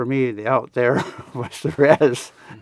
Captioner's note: laughs